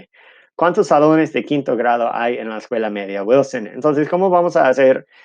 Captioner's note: speaking in Spanish